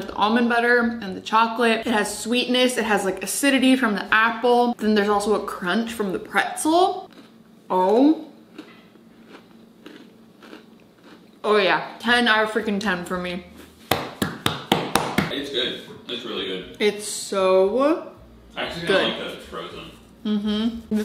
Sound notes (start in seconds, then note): 10.3 chewing; 13.9 hand smacking